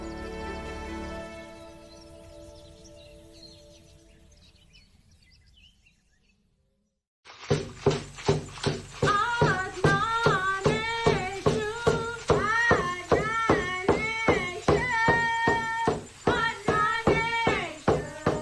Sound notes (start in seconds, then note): 0.0 gentle music; 5.9 birds chirping; 10.9 native American music; 15.9 native American music